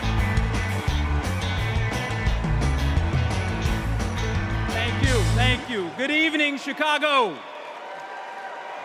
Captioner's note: applause